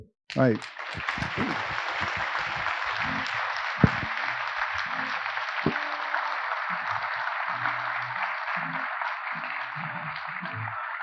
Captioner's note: applause